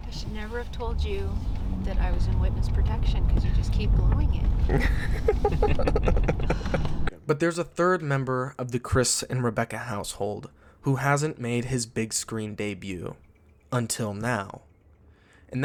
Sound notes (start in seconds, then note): 4.6 all laughing